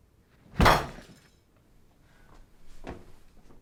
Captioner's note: loud thud